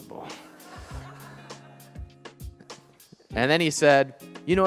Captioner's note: audience laughing